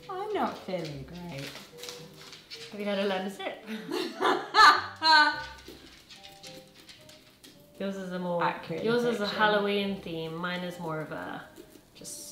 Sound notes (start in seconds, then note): 3.6 laughing